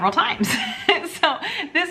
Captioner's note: chuckling